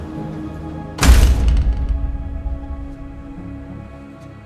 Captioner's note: door clacks